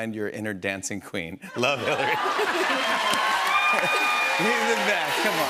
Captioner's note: laughter and applause